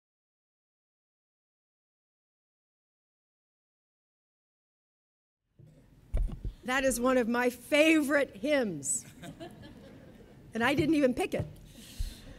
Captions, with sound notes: That is one of my favorite hymns. (audience laughing) And I didn't even pick it.